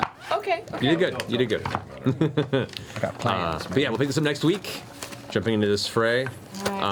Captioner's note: laughs